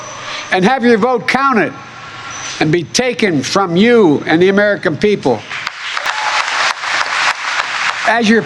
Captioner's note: applause